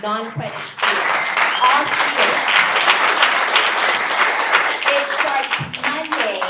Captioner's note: audience applauds